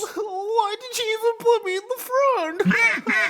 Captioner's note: bawl; furious goose sounds